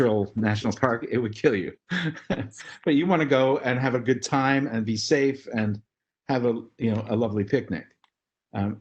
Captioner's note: laugh